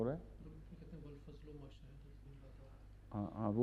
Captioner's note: Arabic